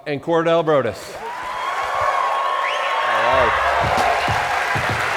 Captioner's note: cheers, applause; upbeat music